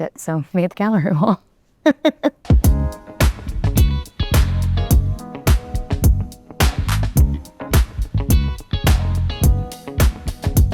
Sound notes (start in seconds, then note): 1.8 chuckling; 2.8 gentle music